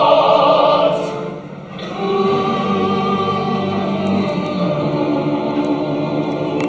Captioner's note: Soviets hum in unison